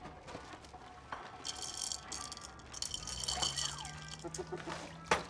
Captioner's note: cereal rattling